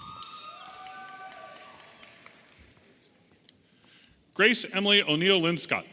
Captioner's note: audience applauding and cheering